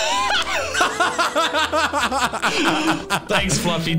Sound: laughing

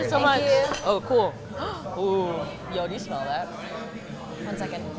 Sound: gasps

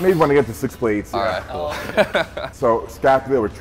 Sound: laughing

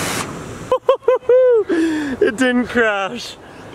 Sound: laughs

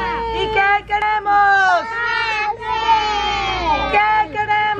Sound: speaking in foreign language

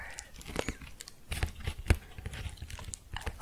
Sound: tapping

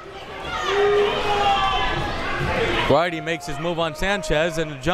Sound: crowd members shouting

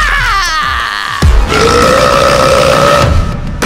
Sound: burping

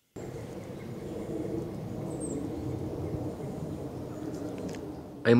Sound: various birds calling

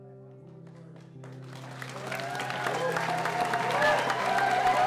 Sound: loud cheers, whistles, & applause

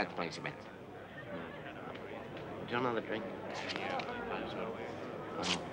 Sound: people chattering

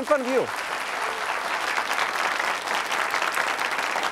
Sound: audience claps

